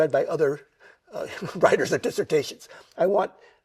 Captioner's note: chuckles